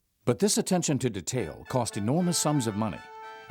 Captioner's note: voiceover